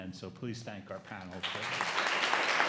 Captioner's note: audience applauds